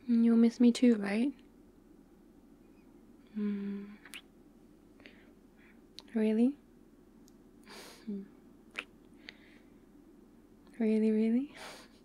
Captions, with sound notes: you’ll miss me too right? mmm *kiss* really? *kiss* really really?